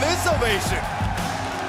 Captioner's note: crowd cheering